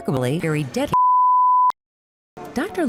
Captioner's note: bars and tone